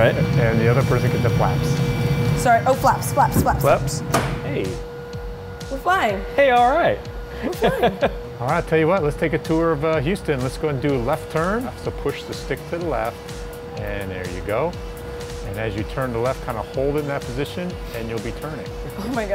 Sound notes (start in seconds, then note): 4.5 switch clicks; 7.4 laughter